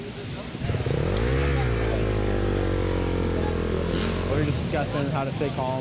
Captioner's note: bike engine roaring